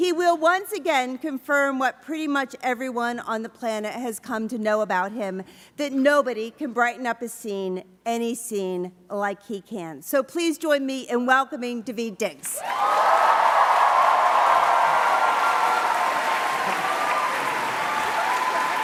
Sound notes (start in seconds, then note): 12.5 applause